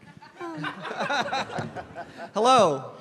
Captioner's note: group laughter